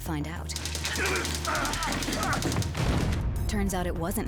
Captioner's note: grunting